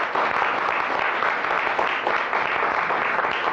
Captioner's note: applause